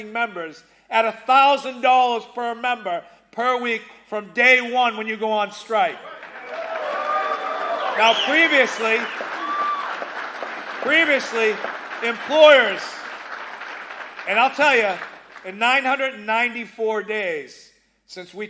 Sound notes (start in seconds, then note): 9.7 applause